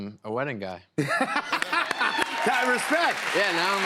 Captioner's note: laughs